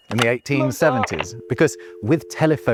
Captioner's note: voice on phone